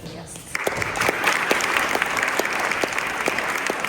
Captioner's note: applause